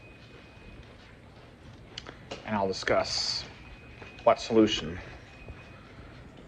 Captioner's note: none